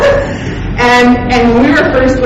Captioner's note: laughing